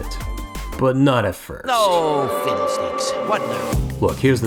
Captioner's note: crowd boos